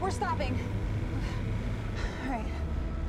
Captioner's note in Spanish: Respirando profundamente